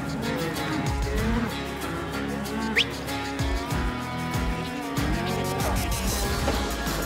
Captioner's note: cattle moo